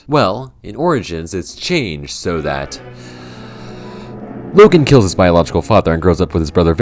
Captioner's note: inhale